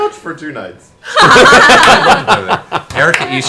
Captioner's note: all laugh